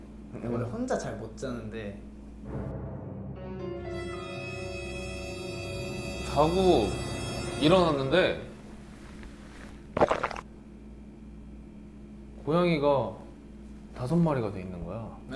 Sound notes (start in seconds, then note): 9.9 gulp